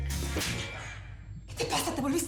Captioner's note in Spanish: bofetada